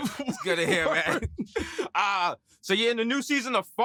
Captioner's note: laughter